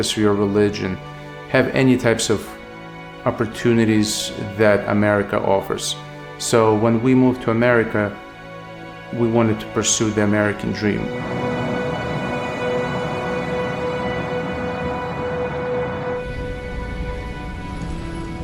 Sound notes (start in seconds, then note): 12.2 dramatic music; 15.6 city noise